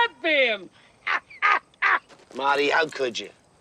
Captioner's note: laughing